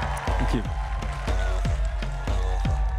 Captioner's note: crowd cheering and applauding